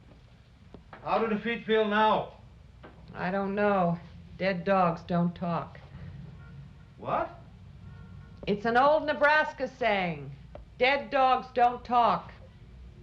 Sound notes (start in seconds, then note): none